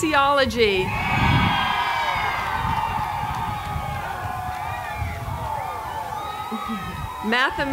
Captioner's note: applause